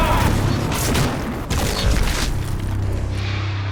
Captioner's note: explosions